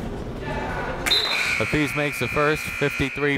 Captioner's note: buzzer blaring